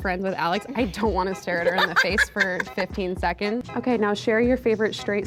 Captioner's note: laughs